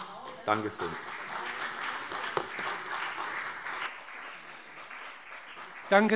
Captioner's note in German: Beifall CDU und vereinzelt BÜNDNIS 90/DIE GRÜNEN